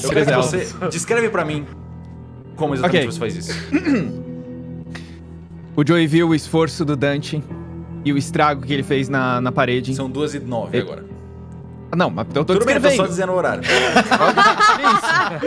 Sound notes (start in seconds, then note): 3.4 clears throat; 13.6 laughs